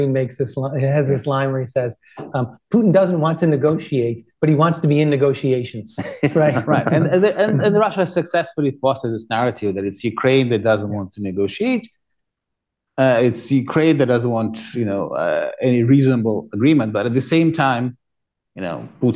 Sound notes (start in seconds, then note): 6.0 laughter